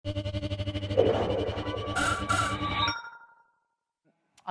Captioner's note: futuristic sound effects